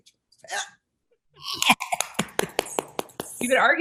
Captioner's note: clapping